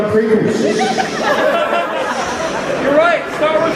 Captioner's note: crowd Laughs